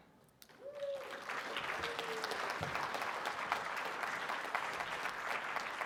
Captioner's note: audience applauding